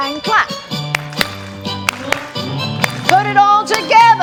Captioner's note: clapping